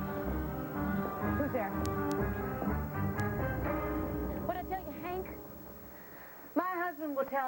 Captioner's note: footsteps approach